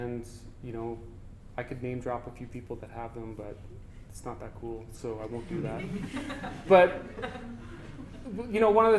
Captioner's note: audience: Laughter